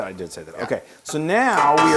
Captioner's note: laugh